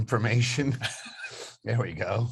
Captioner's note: both laughing